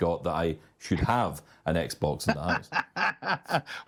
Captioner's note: laughs